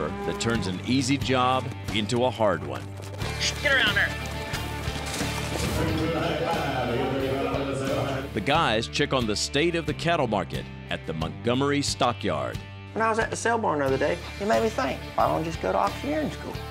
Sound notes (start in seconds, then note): 5.5 auctioneer speaking rapidly